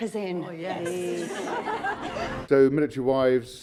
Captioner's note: crowd laughing